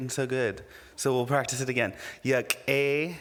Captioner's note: speaking indigenous language